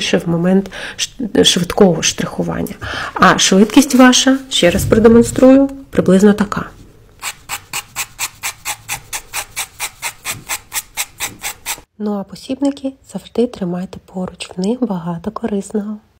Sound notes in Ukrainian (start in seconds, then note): 7.2 звук штрихування